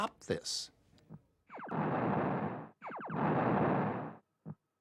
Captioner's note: computer sounds